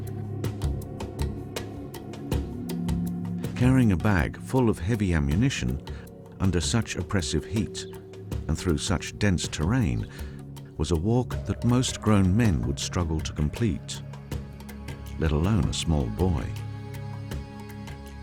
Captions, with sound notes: - [Voiceover] Carrying a bag full of heavy ammunition, under such oppressive heat and through such dense terrain, was a walk that most grown men would struggle to complete, let alone a small boy.